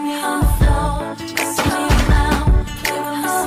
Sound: crash

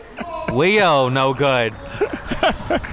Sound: laughing

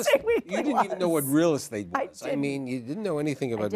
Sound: laughs

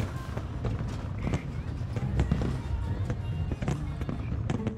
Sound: fireworks popping

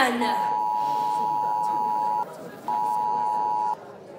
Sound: phone alarm buzzing

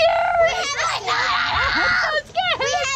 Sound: screams

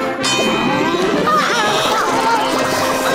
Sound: dinging; yawning; grunting

